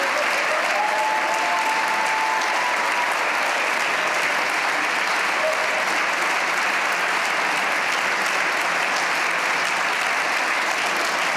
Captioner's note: cheers and applause